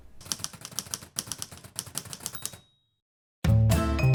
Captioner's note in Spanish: sonidos de máquina de escribir